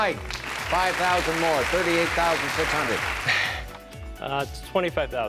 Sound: clapping

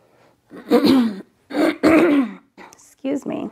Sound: clears throat

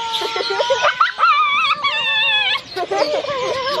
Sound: family laughs

